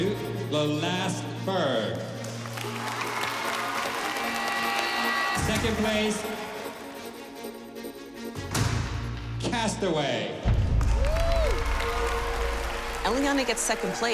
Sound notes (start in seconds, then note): 2.4 cheering; 10.5 applause and cheering